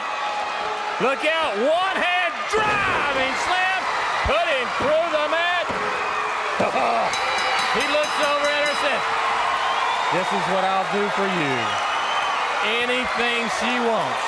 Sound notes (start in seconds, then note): 0.0 crowd cheering; 5.4 bell ringing